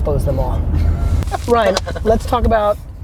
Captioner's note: laughing